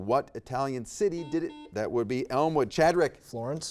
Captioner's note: buzzer dings